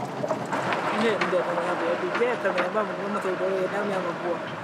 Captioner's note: herero audio spoken